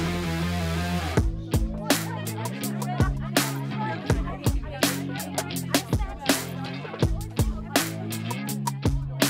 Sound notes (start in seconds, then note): 0.3 upbeat rock music; 1.6 soft chattering continues